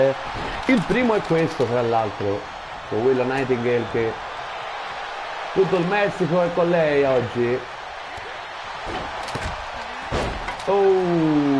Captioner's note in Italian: Applauso